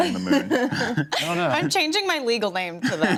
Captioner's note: laughs